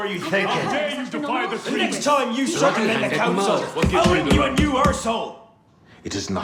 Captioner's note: shouting